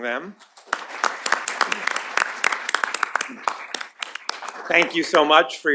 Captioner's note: applause